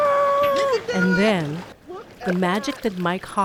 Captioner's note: groaning